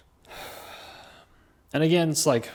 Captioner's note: deep sigh